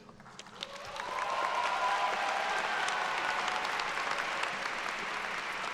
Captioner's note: attendees applauding and cheering